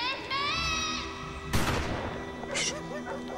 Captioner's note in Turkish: Silah Sesi